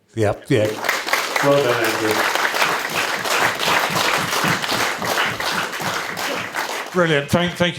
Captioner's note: applause